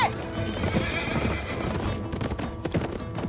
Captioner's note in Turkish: At kişniyor